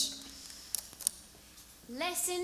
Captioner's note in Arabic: بالعربية; لهجة بريطانية